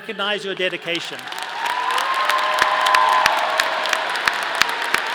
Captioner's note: audience applauding